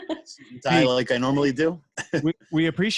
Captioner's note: laughs